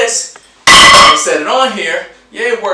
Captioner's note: plate clangs